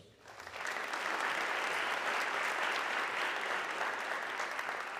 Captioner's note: audience clapping